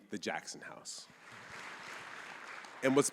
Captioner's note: audience applauding